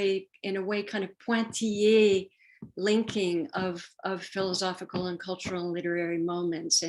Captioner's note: french